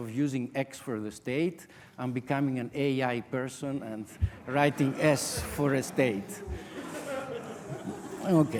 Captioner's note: audience laughter